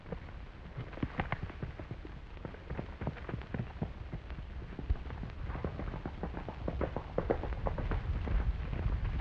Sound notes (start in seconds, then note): 5.2 hooves clattering